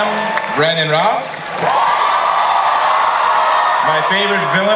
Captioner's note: audience applauds and cheers